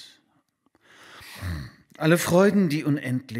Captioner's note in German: Atemgeräusche, leichtes Schnarchen